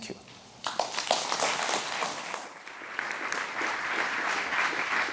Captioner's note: applause